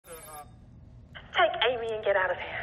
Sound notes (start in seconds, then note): 0.0 computer beeping